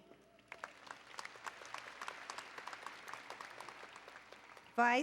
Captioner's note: applause